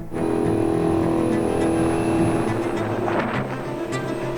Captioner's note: horn blares